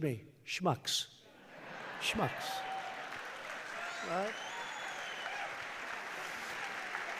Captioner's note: laughter; applause